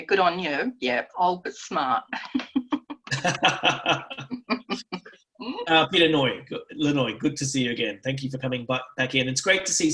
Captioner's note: laughter